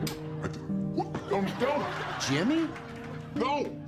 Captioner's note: distorted voice